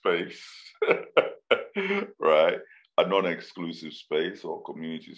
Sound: laughs

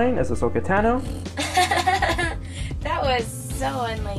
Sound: laughs

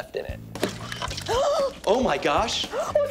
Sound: gasps

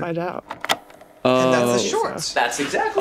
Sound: tape rolling

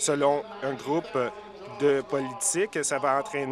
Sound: none

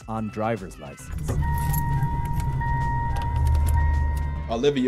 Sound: car alarm rings; keys jangling

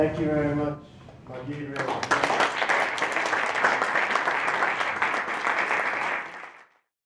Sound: applause

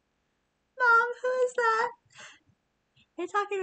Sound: laughs

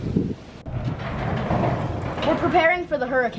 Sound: garage door sliding

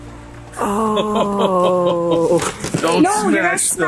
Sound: laughs

